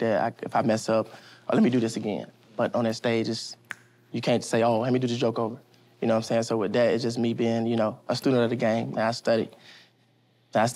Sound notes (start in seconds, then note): 3.6 snaps fingers